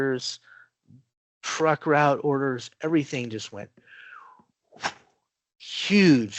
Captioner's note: whoosh